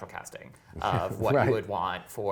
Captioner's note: laughs